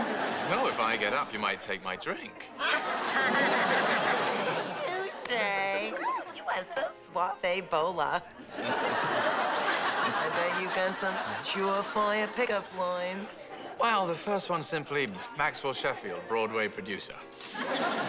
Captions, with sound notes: No. If I get up, you might take my drink. (LAUGHING) Touche. You are so suave bola. I bet you got some sure-fire pickup lines. Well, the first one's simply, "Maxwell Sheffield, Broadway producer."